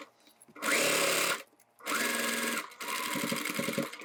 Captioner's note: machine whirring